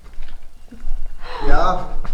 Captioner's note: beeping